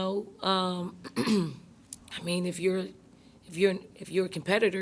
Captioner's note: clears throat